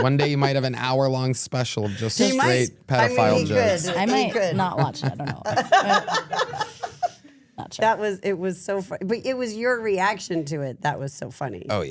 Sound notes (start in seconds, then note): 6.4 laughing